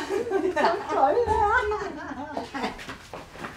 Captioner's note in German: Lachen